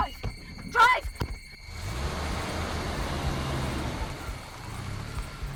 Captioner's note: car rumbling away